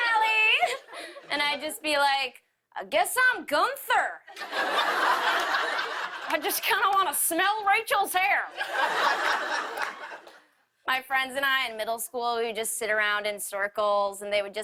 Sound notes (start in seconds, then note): 4.3 laughter